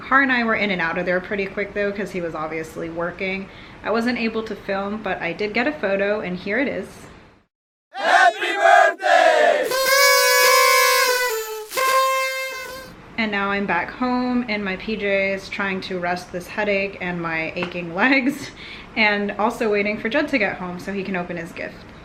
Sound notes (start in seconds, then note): 7.9 people yelling; 9.8 party horns